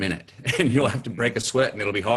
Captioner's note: laughing